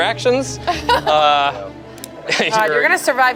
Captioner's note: laughs